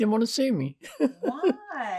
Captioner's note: laughing